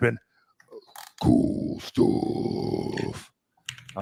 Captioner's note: deepens voice